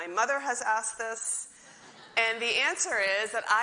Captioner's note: audience laughs